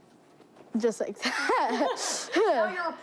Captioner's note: laughs